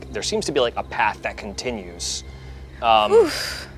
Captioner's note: none